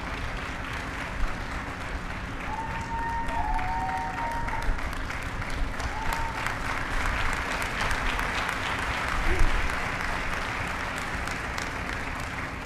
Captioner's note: applause